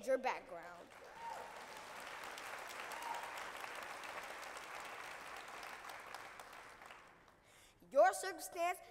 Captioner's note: cheers and applause